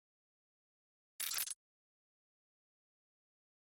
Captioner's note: audio glitches